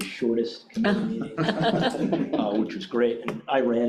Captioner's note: members chuckling